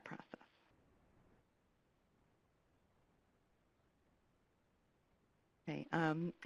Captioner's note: pause